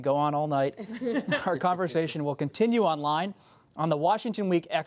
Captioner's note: laughter